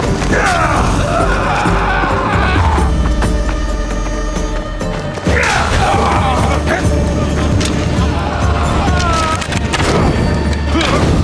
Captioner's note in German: schreien